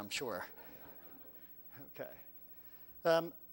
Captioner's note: laugh